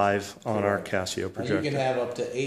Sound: voiceover

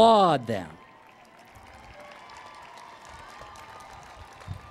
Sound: cheering and Applause

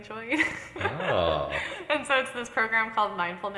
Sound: laughs

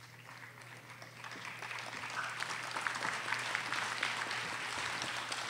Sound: audience applauding

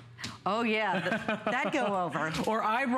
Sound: laughter

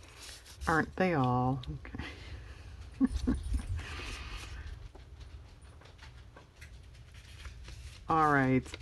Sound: laughs

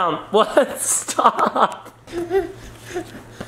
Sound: laughs

